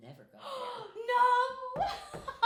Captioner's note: gasps; laughing